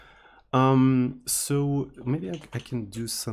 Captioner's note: teakettledrone